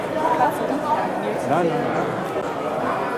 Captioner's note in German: Stimmengewirr